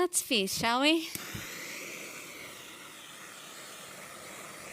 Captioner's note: flame hissing